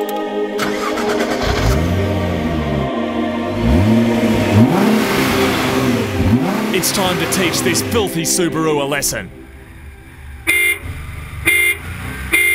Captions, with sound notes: (Engine starts and revs) "It's time to teach this filthy Subaru a lesson!" (Honking)